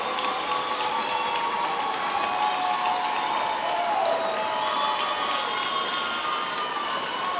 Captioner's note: audience continue cheering and applauding